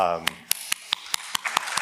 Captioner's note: audience applause